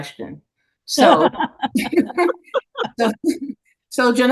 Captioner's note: everyone laughing